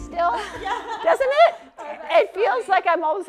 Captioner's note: laughter